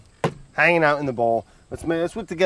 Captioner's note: bowl thuds